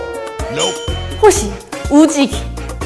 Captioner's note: shouting her slogan